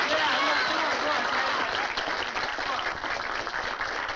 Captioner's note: crowd applauding